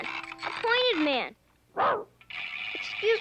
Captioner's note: Arrow barks